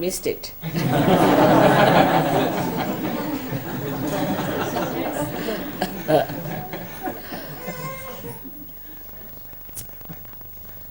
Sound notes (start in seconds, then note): 0.7 all laugh